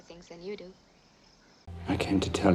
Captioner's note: crickets chirping